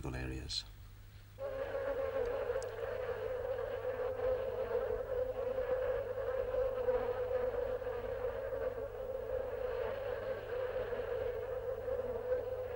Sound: sound of buzzing flies

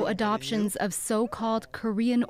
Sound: speaking korean

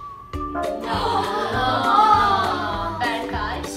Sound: strange Nooo sounds

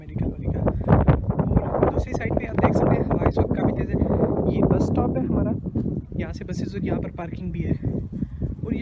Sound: heavy Wind

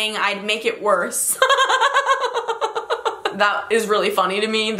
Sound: laughs

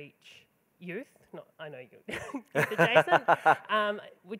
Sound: laughing

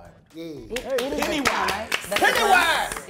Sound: cast applauding and cheering

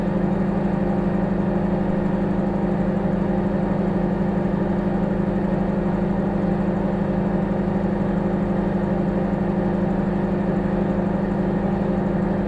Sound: microwave humming

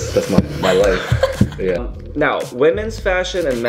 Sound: laughs

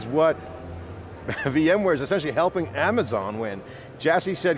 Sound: chuckles

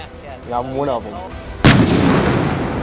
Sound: artillery firing

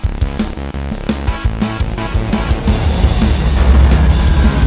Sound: airplane engine

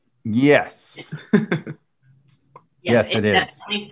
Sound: laughs

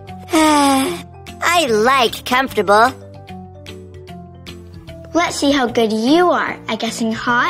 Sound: sighs

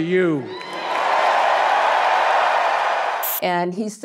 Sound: audience cheering

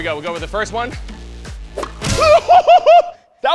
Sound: laughing

